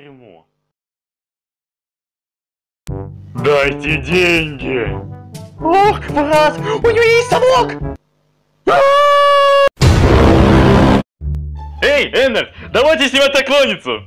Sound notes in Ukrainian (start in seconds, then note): 8.7 Дівчата кричать; 9.8 Напружений звук